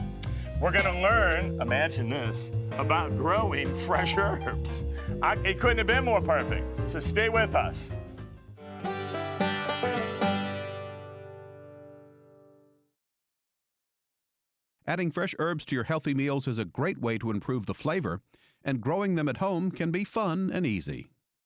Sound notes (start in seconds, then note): 8.9 country music; 14.7 voiceover